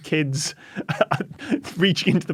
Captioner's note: chuckles